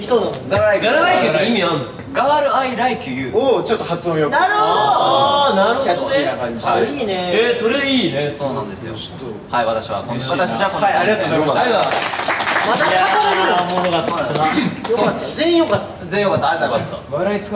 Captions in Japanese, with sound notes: なるほど！ あぁ～ なるほどね！ キャッチーな感じで いいねぇ～ え～ それ いいね！ そうなんですよ はい 私は… 私たちは こんな感じで はい ありがとうございました 良かった ありがとうございます！ （拍手） まだ語れるよね いや～ おもろかった そうだよな 良かった 全員良かった 全員良かった？ ありがとうございます